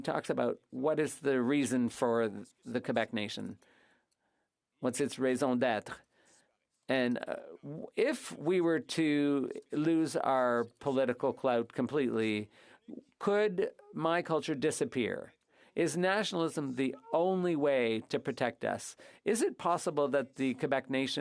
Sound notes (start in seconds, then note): 10.7 speaking french